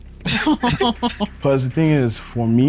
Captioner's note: laughs